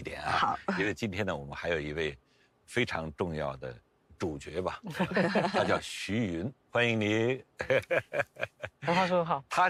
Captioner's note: laughs